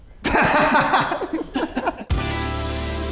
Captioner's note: laughs; mellow music